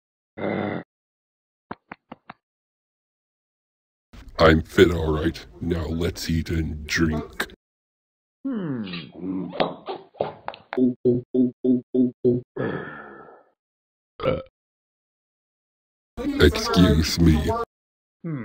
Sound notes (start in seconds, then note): 0.0 growling; 10.7 gulping 6 times, growls; 14.2 burps